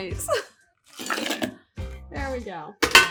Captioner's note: thudding